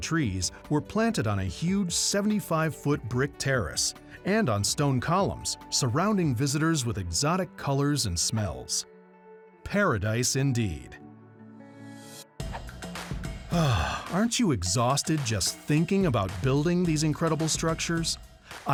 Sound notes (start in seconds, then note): 13.4 sighs